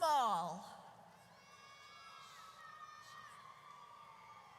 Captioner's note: audience cheers